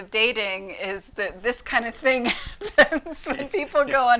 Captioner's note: laughs